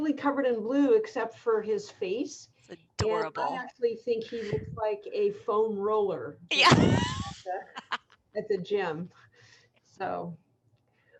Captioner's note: laughter